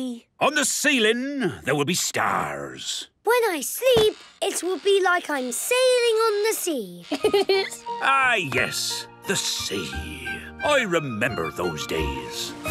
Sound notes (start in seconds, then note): 7.0 laughing